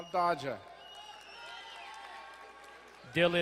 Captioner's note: crowd cheering and applauding